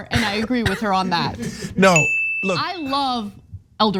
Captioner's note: laugh